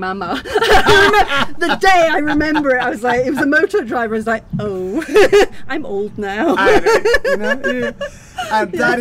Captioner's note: loud laughter; laughter